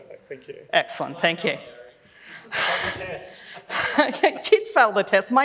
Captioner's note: laughs